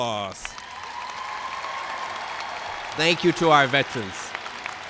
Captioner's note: cheers and applause